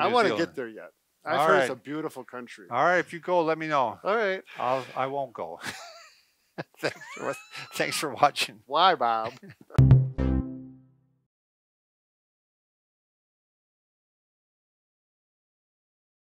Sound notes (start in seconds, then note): 6.6 laughs; 9.8 upbeat music